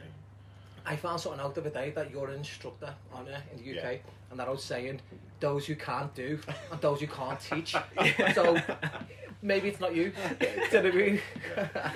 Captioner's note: laughter